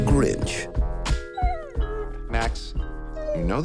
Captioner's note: dog whines